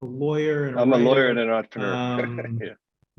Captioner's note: laughs